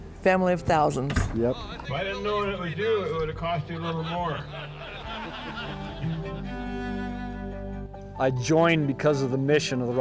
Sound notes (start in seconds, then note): 3.4 audience laughs